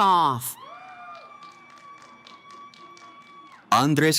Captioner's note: cheering